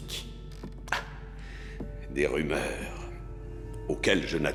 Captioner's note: laughs